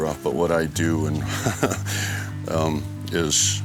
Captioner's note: laughs